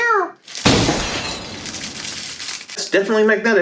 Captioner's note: explosive noise